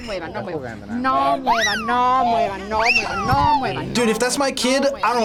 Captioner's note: people speaking in Spanish